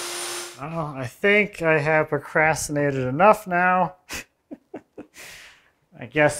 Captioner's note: laughs